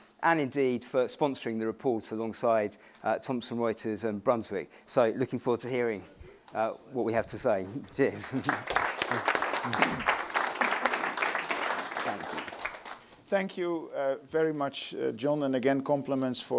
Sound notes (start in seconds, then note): 8.1 crowd applauds